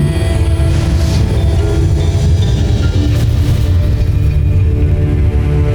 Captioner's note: molten surge rumbles; music swells; epic music playing; molten surge rumbles